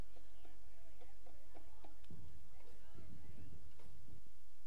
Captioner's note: crowd murmuring